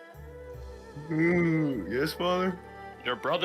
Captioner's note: yawns